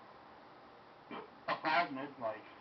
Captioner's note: small burp